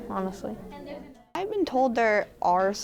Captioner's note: group chattering